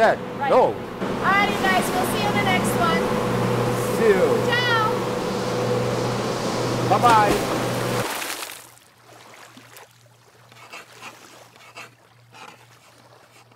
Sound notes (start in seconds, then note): 6.1 water splashing; 10.6 pen scratching